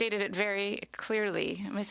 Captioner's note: speaking French